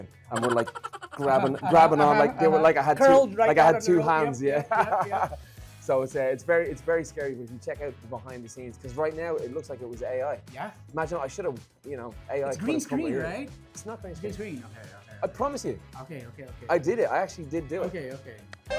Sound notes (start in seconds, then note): 4.4 laughing